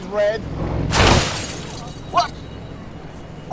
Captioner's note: crashing